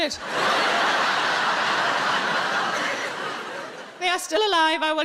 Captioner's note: audience laughs